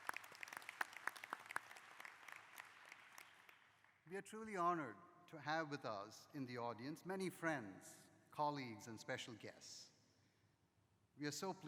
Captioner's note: applause